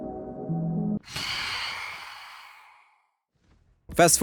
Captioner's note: Phantom Screech